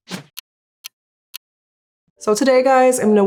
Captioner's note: ticking